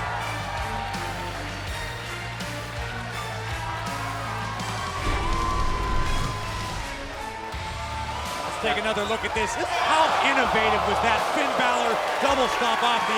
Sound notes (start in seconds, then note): 8.1 crowd cheering